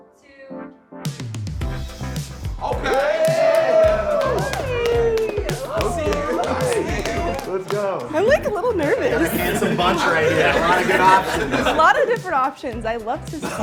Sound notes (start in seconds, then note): 2.5 upbeat music; 5.2 clapping